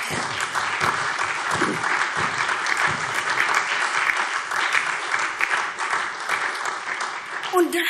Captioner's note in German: Beifall SPD und DIE LINKE